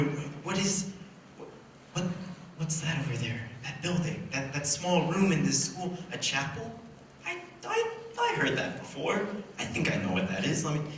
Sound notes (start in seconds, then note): none